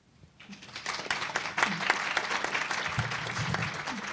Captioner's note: applause